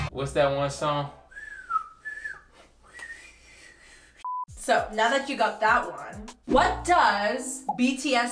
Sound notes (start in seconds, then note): 1.2 whistles